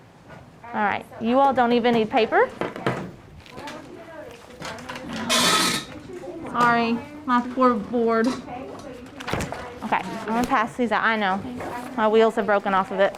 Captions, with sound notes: All right, you all don't even need paper. (students chattering) (chalkboard screeching) Sorry, my poor board. Okay, I'm gonna pass these out. I know, my wheels are broken off of it.